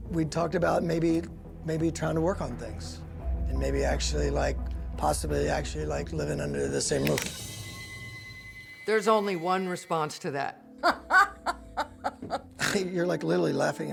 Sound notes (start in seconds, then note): 10.8 laughs, snorts